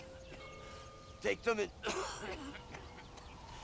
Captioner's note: cough